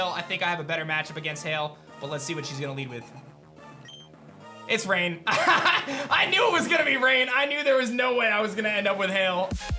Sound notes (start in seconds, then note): 5.3 laughs; 9.5 introduction music